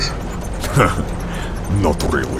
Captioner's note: Heavy Guy chuckles